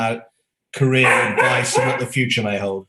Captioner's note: dog barking